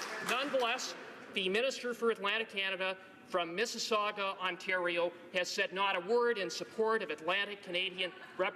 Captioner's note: applause